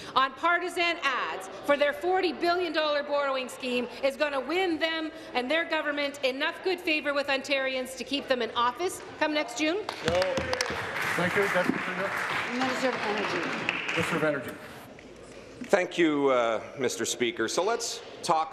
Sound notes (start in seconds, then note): 13.8 applause